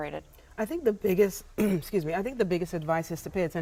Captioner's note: clears throat